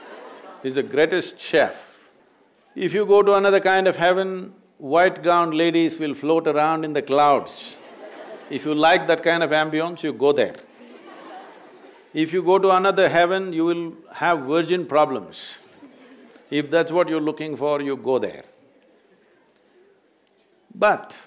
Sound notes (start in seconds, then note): 7.6 laughter; 10.6 laughter